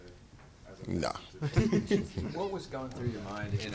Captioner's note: reporters chuckling